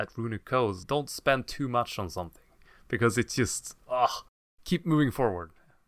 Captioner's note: ugh